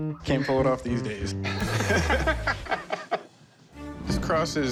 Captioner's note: laughter